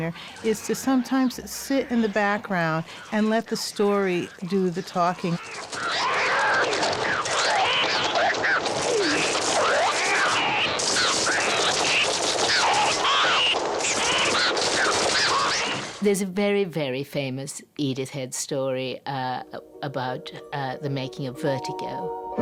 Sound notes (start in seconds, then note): 5.6 birds cawing